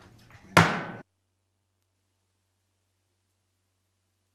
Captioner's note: gavel bangs